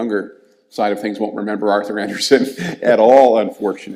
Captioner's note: laughs